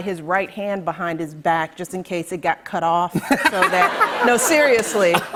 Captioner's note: laughter